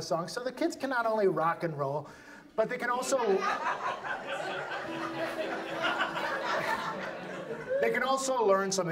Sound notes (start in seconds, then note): 7.6 audience laughs